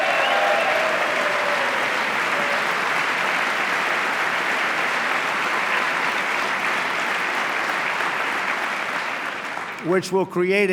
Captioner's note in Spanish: aplauso